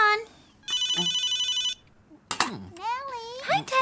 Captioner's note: phone ringing